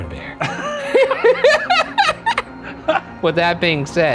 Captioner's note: both laugh